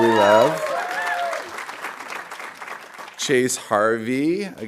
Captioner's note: audience applauding